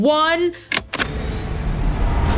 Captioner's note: click; acceleration sound